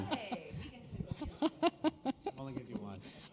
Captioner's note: chuckle